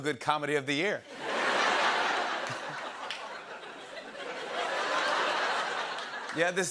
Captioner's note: laughter